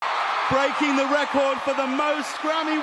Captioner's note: audience clapping